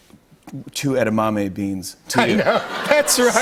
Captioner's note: laughter